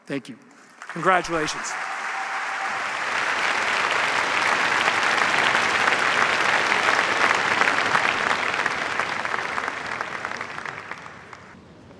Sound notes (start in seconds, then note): 2.0 cheers, applause